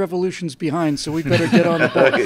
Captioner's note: laughter